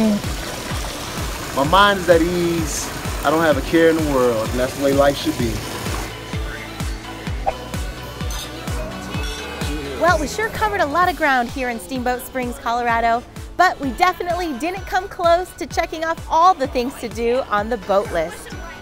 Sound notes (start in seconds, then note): 0.0 babbling water; 9.2 clinking glasses